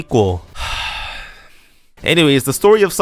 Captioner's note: sigh